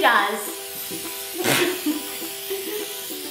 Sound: can spraying; giggles

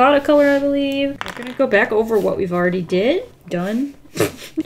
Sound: laughs

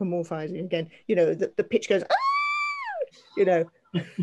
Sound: squealing

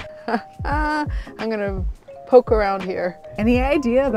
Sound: laughing

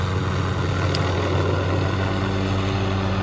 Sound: click

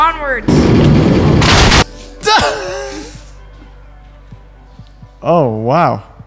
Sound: explosion; laughs

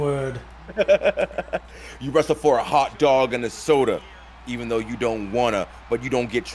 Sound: laugh

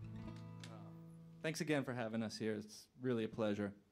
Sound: hablando en Inglés

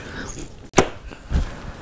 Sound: suction pop

